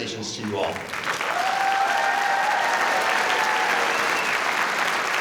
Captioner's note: audience applauding